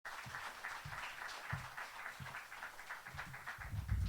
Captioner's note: applause